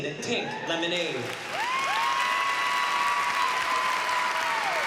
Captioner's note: cheering and applause